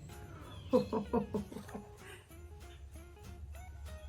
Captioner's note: ho-ho-ho chuckles